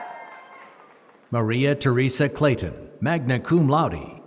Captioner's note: applause